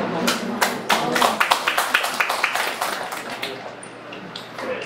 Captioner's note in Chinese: 眾人鼓掌